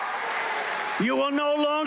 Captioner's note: cheering